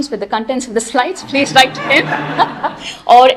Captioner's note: laughter